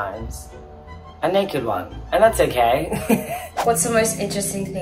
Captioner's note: laughs